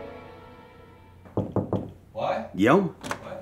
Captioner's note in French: Toc toc toc